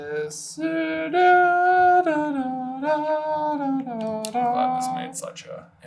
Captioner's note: da da da'ing a little song